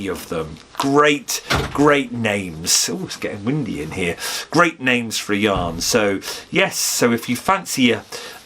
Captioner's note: knock on the window